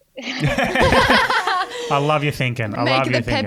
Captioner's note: everyone laughing